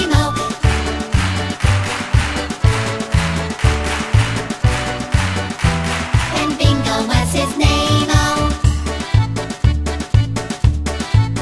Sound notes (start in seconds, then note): 0.5 clap, clap, clap, clap, clap; 8.6 polka music